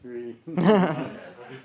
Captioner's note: laughs